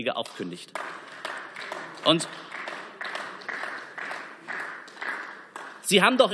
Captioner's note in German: Beifall